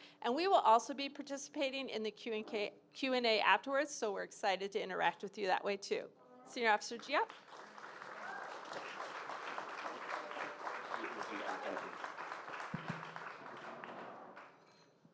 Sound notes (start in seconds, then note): 7.2 audience applauding; 7.5 audience cheering